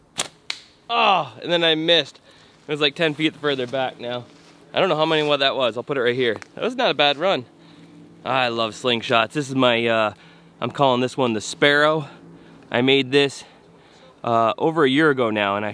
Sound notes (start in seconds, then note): none